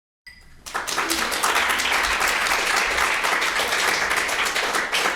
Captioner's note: audience clapping